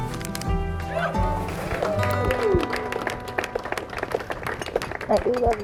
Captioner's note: cheering and applause